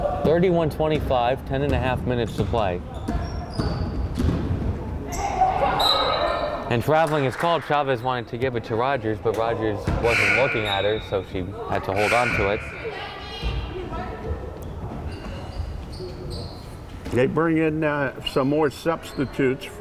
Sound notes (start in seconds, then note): 5.0 crowd chattering and yelling